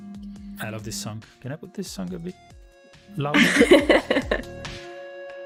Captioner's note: laughs